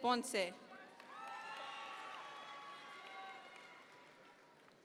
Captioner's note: audience members cheer